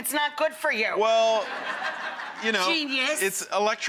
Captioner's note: audience laughs